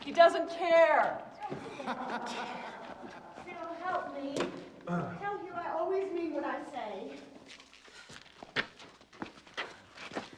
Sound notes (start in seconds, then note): 1.7 hugh laughs